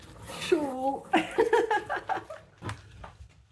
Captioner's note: laughing